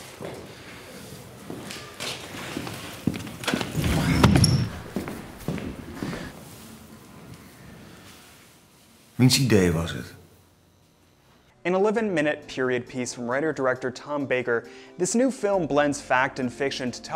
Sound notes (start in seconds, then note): 0.0 footsteps echo; 9.1 speaking foreign language